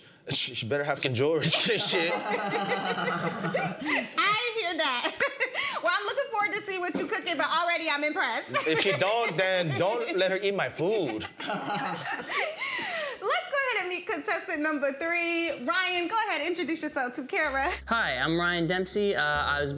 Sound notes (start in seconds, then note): 1.5 laughs; 10.8 laughs